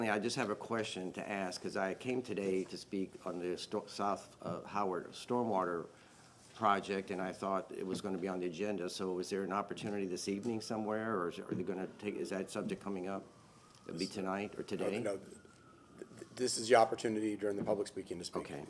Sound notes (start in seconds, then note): none